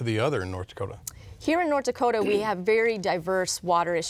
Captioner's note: man clears throat